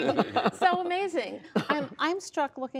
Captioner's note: laughter